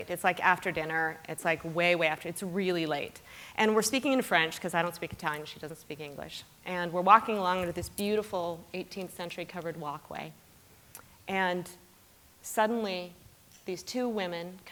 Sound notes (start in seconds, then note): none